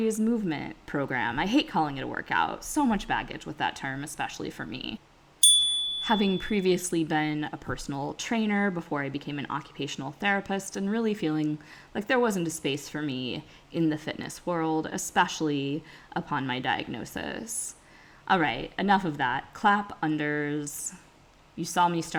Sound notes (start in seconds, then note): 5.4 chime